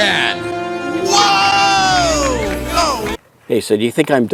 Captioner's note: audience applaud